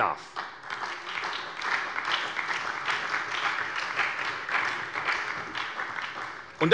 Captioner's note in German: Beifall bei der SPD und der FDP